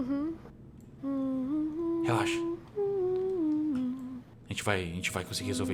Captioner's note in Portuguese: cantarolando